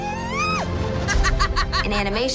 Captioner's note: laughing